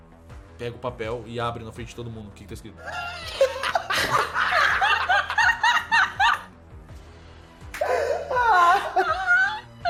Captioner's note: lots of laughs